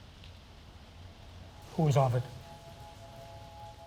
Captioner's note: none